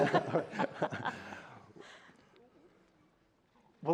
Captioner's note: laughter